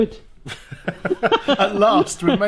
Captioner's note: laughs